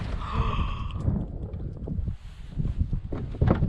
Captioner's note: both gasp